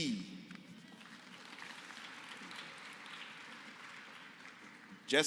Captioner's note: applause